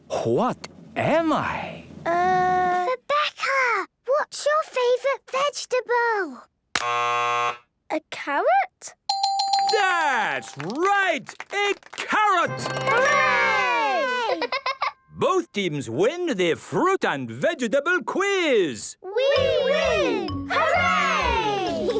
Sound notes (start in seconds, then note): 2.8 whispering; 7.2 buzzes; 9.1 dinging